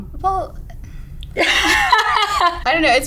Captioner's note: laughing